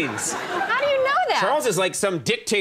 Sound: audience laughing

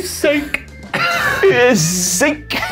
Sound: laughing

